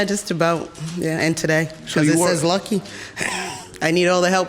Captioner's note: laughs